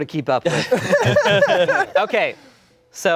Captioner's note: laughing